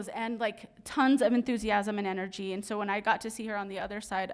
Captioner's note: none